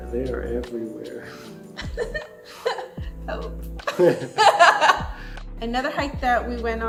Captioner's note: laughs